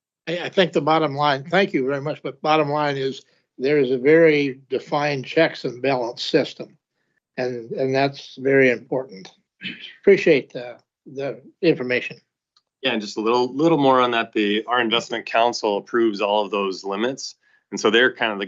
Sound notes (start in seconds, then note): 10.0 clears throat